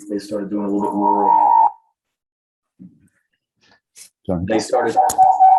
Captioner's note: microphone screeching